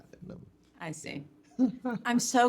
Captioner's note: chuckling